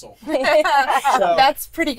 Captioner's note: all laugh